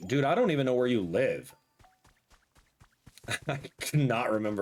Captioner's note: laughs